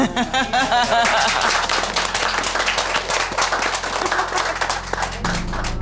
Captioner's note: laughter, applause